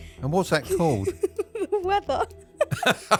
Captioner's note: laughing